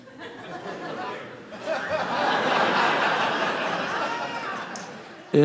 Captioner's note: audience laughing